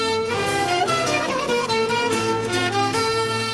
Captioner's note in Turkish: Ağlama ve feryat sesi